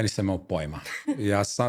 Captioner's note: laughs